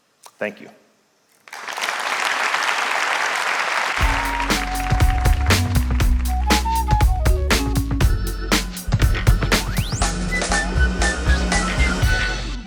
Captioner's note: applause